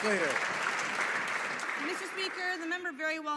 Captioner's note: some Applause